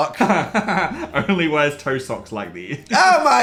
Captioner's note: laughing